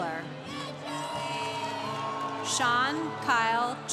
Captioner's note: congregation cheering